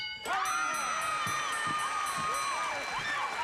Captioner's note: cheering